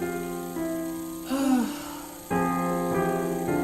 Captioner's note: sigh